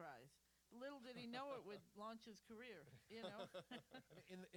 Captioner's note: laughter